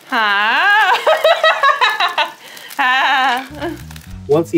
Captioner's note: laughing